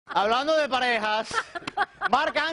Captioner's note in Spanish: risas